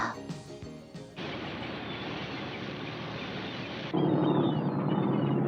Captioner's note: seagulls calling